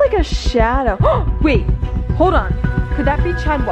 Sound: gasps

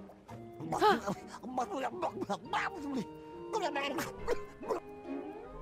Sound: uncomfortably Realistic In-Game Drowning Sounds

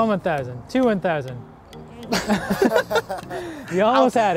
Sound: laughing

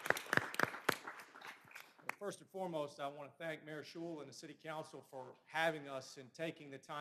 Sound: applause

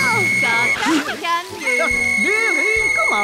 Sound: blows whistle

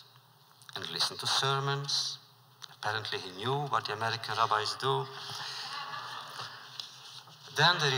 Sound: laughter

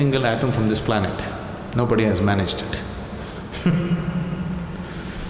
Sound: laughs

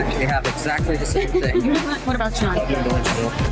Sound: laughing

